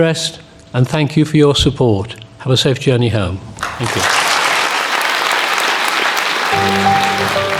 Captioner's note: applause